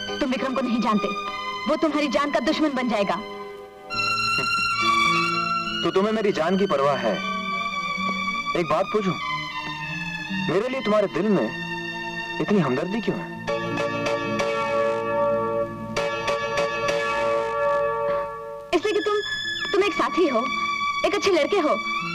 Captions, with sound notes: You don't know Vikram. He'll be after your life. (Chuckles) So, you're concerned about my life. Can I ask something? Why are you so sympathetic to me? Because you're a friend and a nice boy.